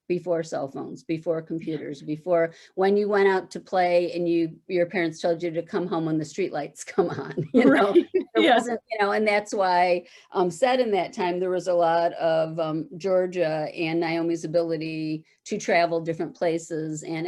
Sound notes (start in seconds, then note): 7.3 chuckles